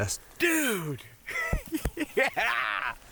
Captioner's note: laughs